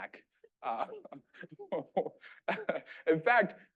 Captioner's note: laughing